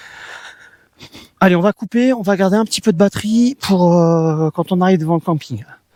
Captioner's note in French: grognement